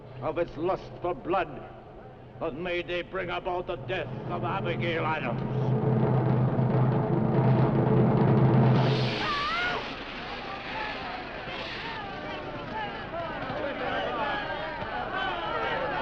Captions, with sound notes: of its lust for blood, but may they bring about the death of Abigail Adams. (Elizabeth screaming) (crowd shouting)